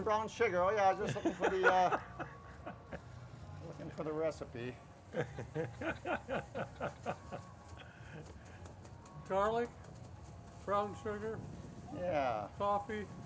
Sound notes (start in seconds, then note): 5.1 laughs